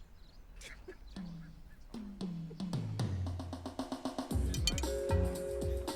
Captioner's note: man sobs; upbeat music